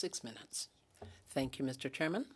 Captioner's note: speaking French